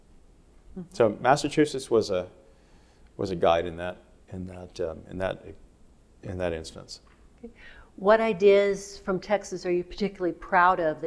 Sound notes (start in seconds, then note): none